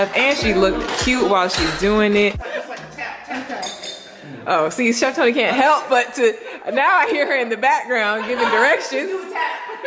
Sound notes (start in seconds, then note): 3.9 clattering